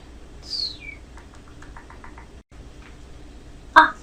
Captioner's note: tongue ticking